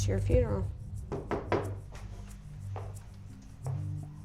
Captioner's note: loud knocking